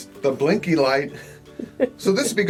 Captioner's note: camera Operator laughs